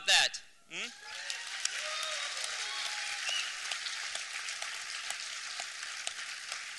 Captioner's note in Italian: applausi